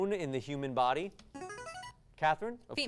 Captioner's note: device sound